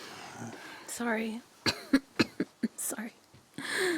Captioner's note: coughs